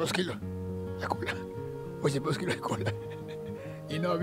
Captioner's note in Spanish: risa